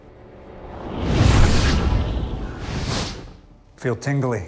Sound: energy crackles

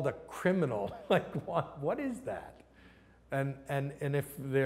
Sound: laughs

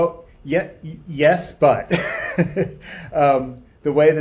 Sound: laughs

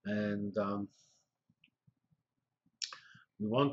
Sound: pause

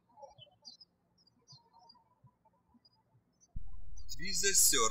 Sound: birds chirping

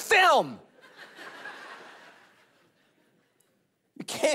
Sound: congregation laughing

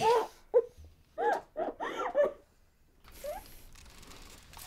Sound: sobbing

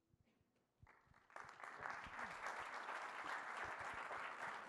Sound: applause

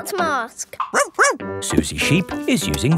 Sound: barks

